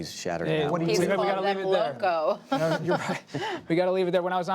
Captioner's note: laughter